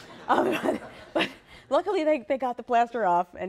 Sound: laughter

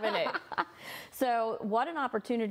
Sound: laughing

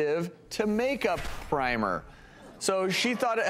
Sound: hushed Laughter

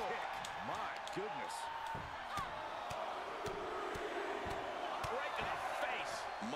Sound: applause

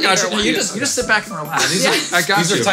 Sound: laughing

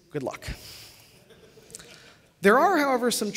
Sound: laughter

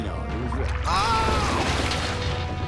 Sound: screaming

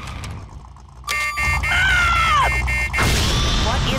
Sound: alarm

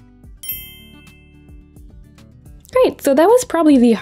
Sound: dinging sound effect

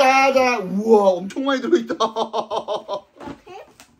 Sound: laughs

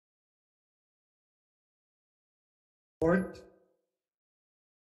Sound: speaker muted

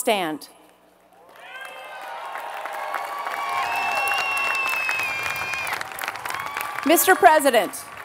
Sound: applause

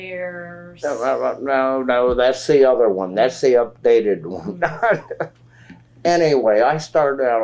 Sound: laughs

